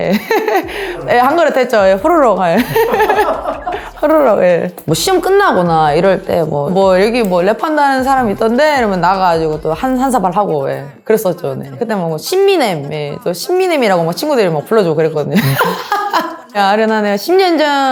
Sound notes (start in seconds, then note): 15.3 laugh